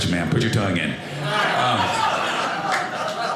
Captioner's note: audience laughing